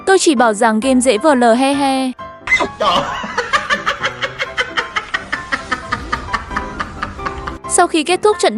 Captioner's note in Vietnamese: Tiếng cười